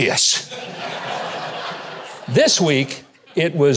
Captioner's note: audience laughing